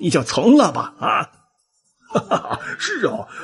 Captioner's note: a sound of laughter